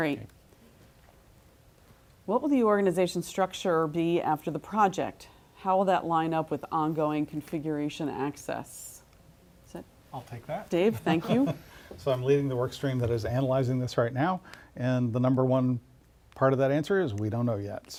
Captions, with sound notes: >> Great, what will the organization structure be after the project? How will that lineup with on going configuration access? >> I'll take that. >> Steve, thank you. >> [LAUGH] So I'm leading the work stream that is analyzing this right now. And the number one part of that answer is we don't know yet.